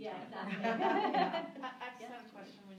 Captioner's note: laughter